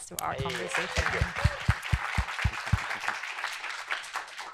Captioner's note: applause